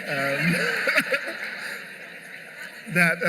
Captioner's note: laughter